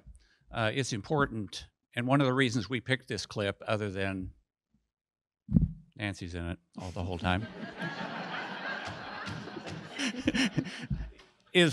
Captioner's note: audience laughs